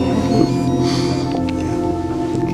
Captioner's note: phone ringing